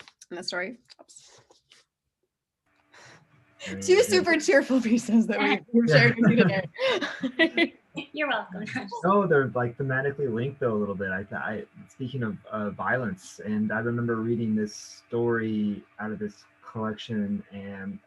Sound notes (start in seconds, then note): 3.0 chuckles; 5.9 laughs